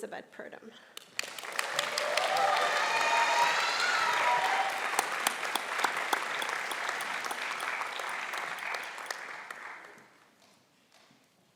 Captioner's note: applause